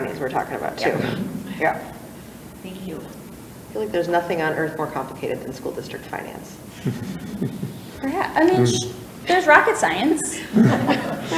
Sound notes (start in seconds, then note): 6.6 light chuckling; 10.3 laughter